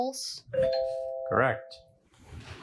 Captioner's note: bell dings